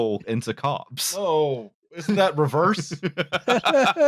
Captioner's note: chuckles; laughter